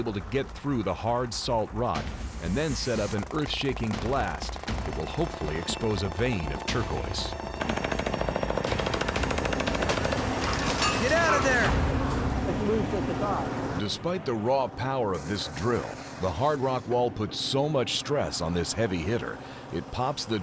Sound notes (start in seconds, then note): 8.6 drilling